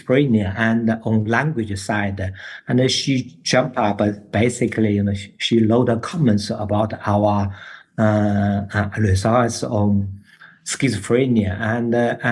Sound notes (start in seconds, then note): none